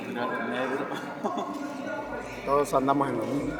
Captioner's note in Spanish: Risas